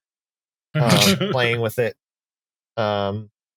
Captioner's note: laughter